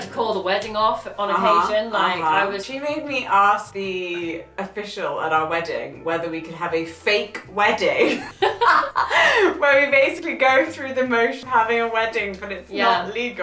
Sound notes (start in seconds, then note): 8.0 laughs